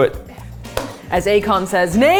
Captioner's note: hand smacking dish